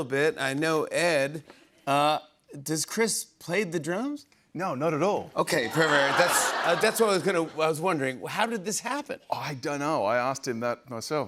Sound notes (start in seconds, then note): 5.6 laughter